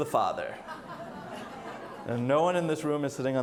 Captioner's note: audience laughs